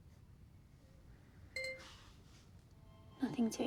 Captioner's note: laptop chimes